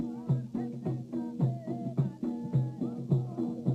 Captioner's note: people chanting